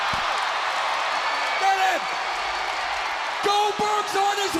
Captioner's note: crowd cheering